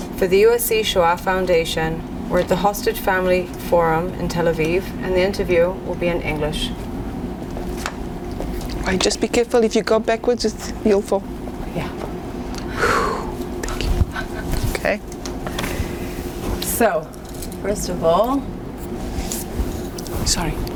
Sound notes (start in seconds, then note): 12.6 sighing